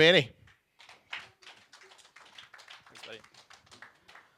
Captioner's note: audience clapping